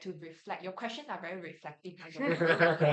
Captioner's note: everyone laughs